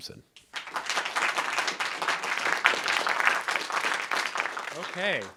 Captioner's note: audience applauding